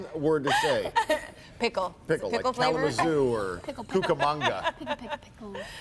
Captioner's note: laughter